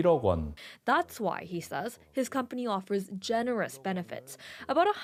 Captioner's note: speaking Alternate Language